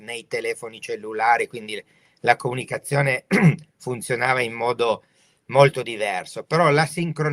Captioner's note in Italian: schiarire la voce